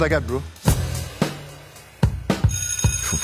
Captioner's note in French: son de cloche